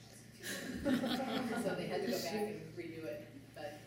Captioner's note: laughter